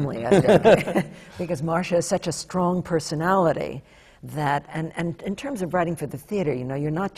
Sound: laughs

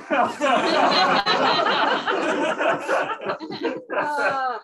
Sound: laughter

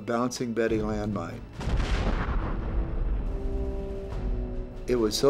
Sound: explosion

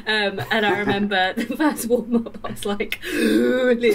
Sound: gasps

